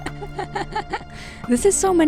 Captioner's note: laughing